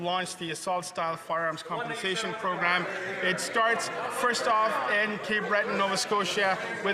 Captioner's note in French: voix de l'interprète